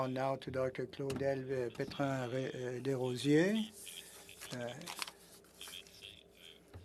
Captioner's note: speaking French